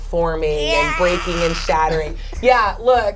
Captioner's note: imitates creaking